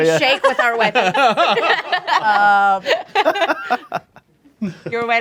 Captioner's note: group laughs